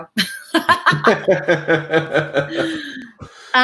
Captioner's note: both laugh